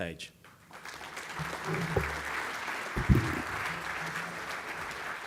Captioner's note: audience applauding